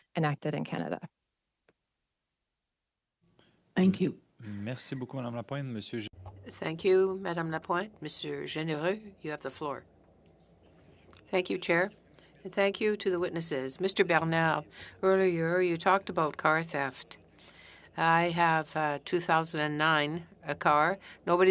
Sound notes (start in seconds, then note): 10.7 speaking French